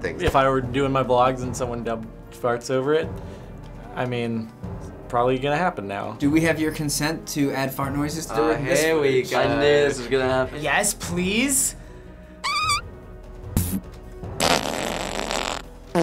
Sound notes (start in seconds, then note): 12.4 squeaky fart; 14.4 brief fart; 14.4 deep fart; 14.4 muted fart